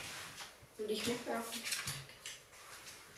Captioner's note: children's voices